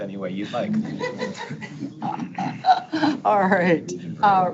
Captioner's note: board members laughing